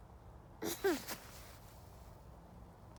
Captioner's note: the child is laughing